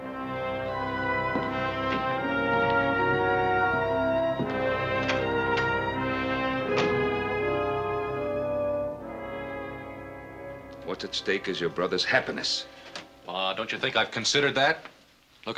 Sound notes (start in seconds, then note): 0.1 dramatic music; 4.9 door opens, shuts